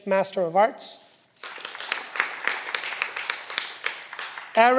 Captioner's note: cheering